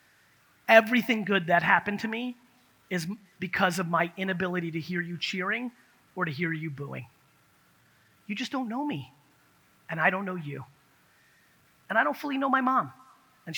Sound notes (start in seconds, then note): none